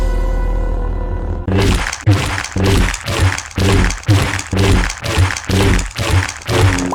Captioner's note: Lightsaber Noises